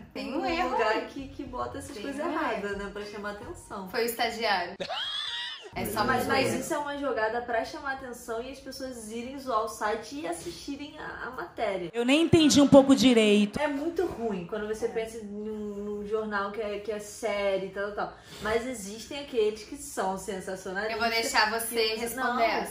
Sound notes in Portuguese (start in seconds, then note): 4.8 Risos